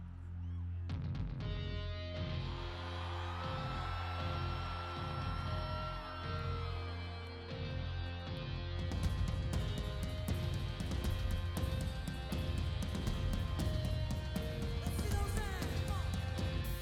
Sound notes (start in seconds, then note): 0.5 instrumental; 5.5 applause